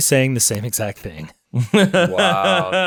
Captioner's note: laughing